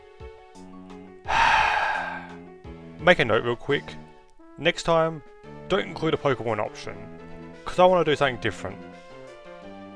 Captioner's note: sigh